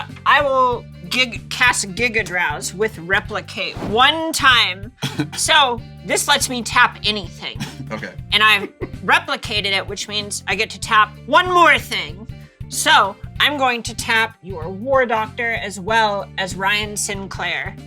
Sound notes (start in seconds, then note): 5.0 chuckles; 8.4 giggles; 8.4 chuckles